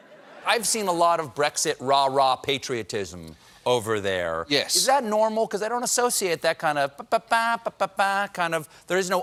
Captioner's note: laughter